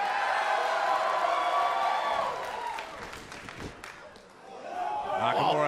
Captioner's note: cheers and applause